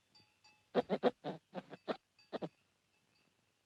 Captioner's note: Mowgli chitters; monkey chitters